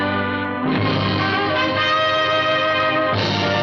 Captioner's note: none